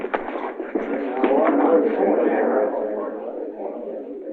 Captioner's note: men chattering